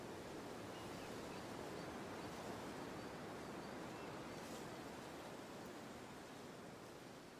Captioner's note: wind and birdsong